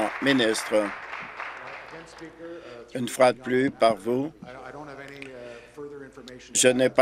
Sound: applause

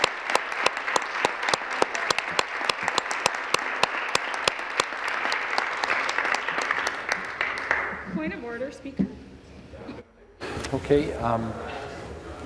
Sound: applause

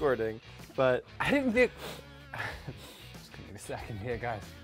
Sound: sniffs

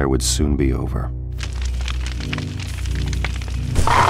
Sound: crackling of fire; hyena growling

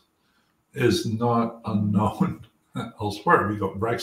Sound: laugh

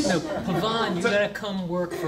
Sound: laughing

